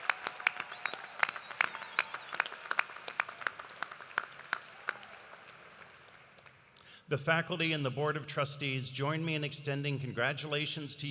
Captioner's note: cheers and applause